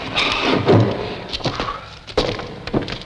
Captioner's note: sighing